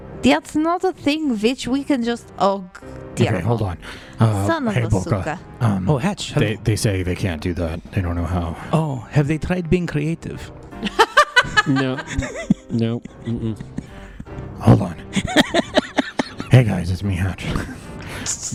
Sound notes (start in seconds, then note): 10.8 laughs